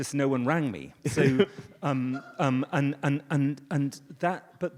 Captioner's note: audience laughs